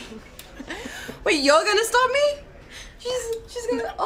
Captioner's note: laughter